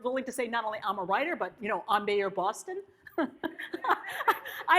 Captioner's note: laughs